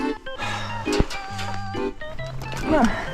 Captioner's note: sigh